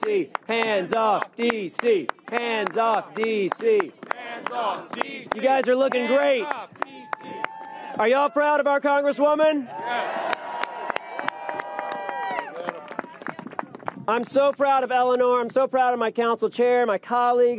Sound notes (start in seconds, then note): 10.1 applause